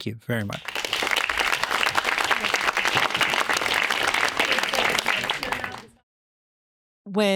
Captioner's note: audience applauding